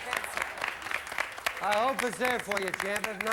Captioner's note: audience applauding